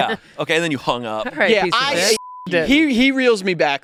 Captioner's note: beep